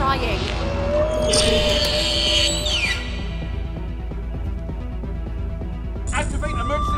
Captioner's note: suspenseful music; creature screeching